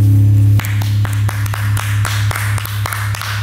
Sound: clapping

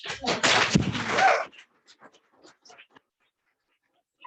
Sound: audience applauds

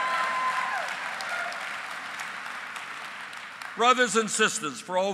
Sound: applause

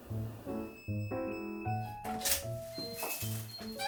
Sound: sound of the front door opening 🔔

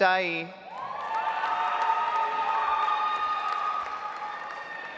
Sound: audience applauds

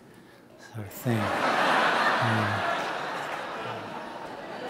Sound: audience laughing

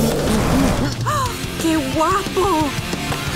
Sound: humming; gasping; humming

